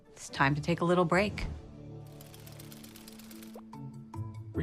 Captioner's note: bright music; gears whirring